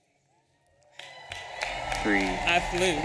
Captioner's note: audience applauding and cheering